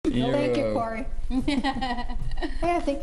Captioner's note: laugh